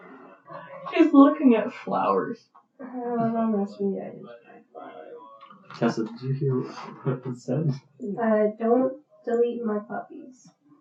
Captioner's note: tired noises?